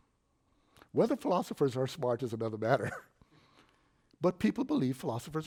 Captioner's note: chuckles